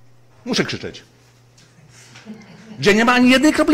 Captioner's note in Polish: głos w tle